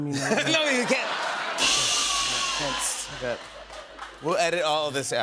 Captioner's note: laughter; cymbals crash